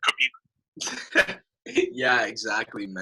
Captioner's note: laughing